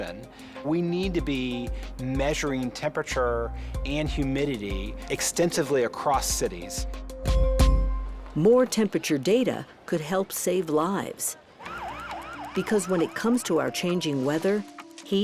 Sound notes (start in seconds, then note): 11.6 siren blaring